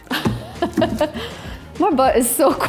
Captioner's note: laughs